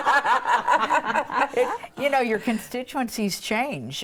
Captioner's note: laughing